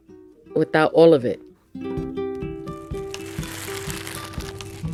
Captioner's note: plastic rustling, music